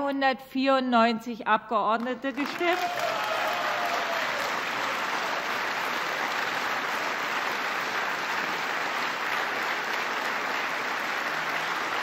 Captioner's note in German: Applaus